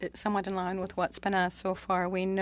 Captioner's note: speaking French